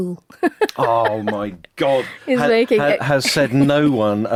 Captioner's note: laughs